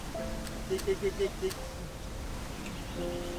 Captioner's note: calling ducks